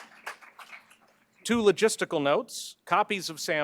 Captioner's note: applause